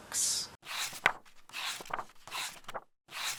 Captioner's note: pages turning